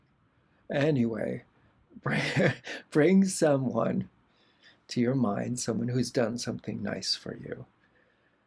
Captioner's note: laughter